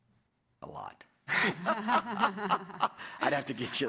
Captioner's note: laughter